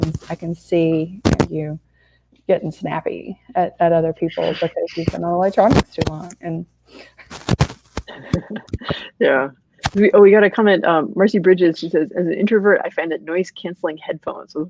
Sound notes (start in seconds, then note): 6.9 statics; 8.0 laughs